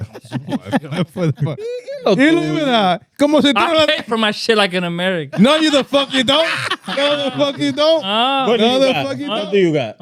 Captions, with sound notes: (Laughing) (Speaking In Foreign Language) I pay for my shit like in America. No, you the fuck you don't. (Laughing) You the fuck you don't. What do you got? What the fuck you don't. What do you got?